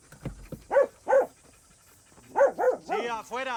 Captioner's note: dog barking